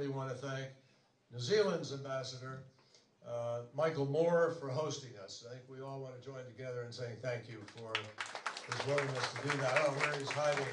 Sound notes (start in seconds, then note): 7.6 applause